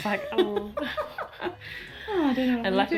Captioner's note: everyone laughs